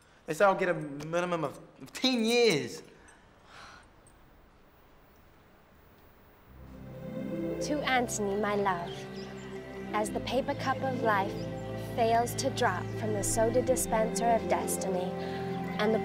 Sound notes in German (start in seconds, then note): 3.7 seufzt ungläubig; 6.8 ätherische Musik; 8.9 Vögel zwitschern